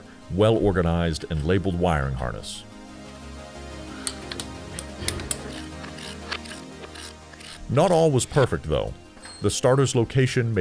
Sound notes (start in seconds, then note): 4.0 wires clicking; 4.7 ratchet cranking